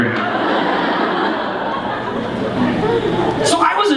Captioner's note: laughter